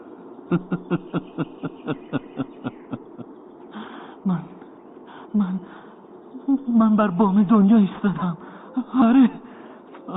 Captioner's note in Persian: خنده